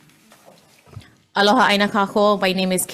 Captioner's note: speaks foreign language